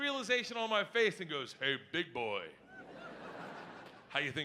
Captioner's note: audience laughing